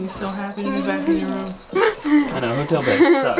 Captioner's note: laughs